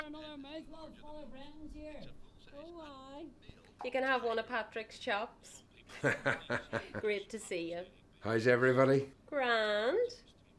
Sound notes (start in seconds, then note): 5.9 Brendan laughing